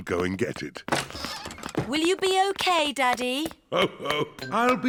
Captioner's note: laughs